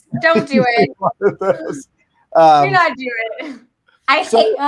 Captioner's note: panelists laugh